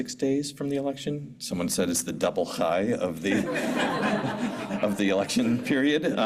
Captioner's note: non-english